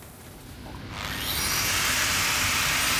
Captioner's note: whirring